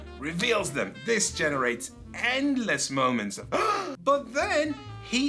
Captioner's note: shocked noise